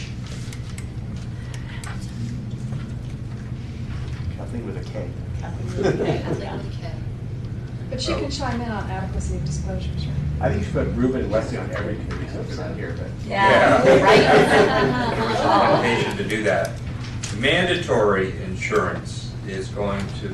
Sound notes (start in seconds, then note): 2.2 laughter